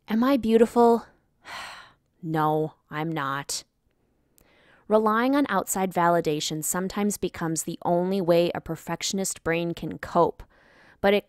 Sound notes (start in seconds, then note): 1.4 sigh